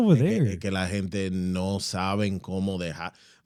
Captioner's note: speaking In Foreign Language